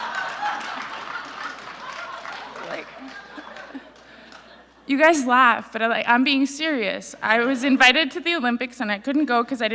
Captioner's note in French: Rires